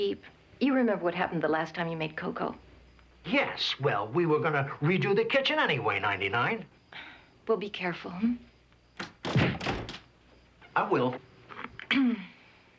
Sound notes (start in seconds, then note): 9.0 thuds